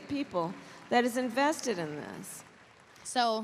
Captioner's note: applause